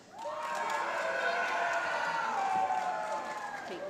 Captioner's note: applause